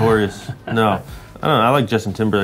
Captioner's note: Justin laughing